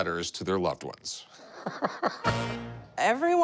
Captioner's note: laughs